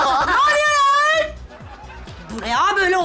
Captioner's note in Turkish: Gülme efekti